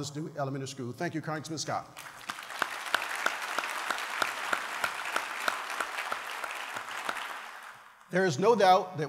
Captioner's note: applause